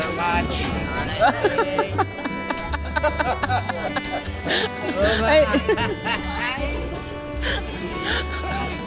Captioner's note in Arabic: يضحك